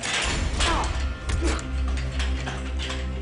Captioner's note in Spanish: Golpes; Quejido